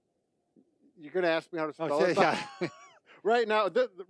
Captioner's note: laughs